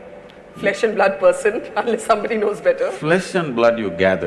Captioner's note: laughs